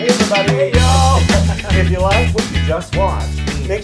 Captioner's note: laugh